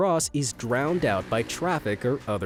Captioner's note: machine rolling